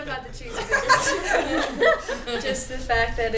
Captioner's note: laughter